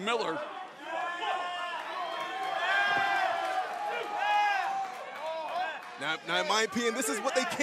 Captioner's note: crowd cheering